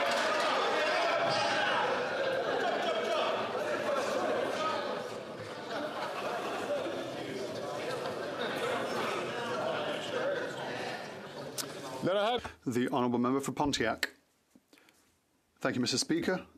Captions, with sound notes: DESIRE TO POLLUTE EVEN MORE. [ Chatter ]